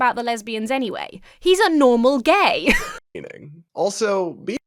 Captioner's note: laughs